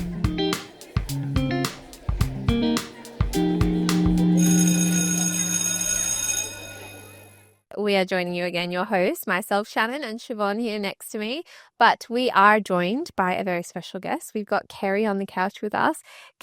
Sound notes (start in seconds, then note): 0.0 upbeat music; 4.3 school bell ringing; 4.4 people quietly chattering